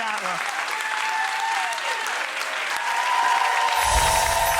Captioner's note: applause